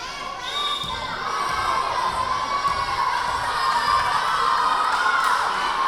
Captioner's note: whistle blowing; yelling